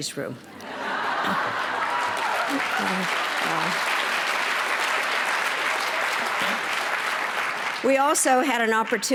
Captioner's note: applause